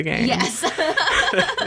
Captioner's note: laughs